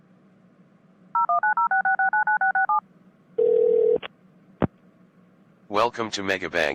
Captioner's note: dialing, ringing, then phone pickup